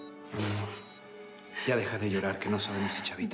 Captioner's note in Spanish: ella solloza